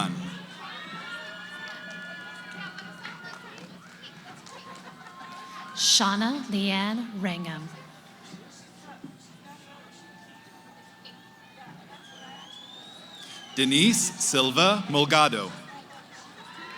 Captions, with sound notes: [ Cheering ] >> Shanna Leann Wrangham. [ Background conversations ] >> Denise Silva Mulgado.